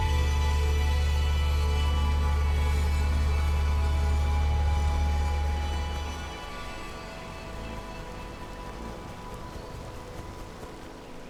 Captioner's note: sound of light rainfall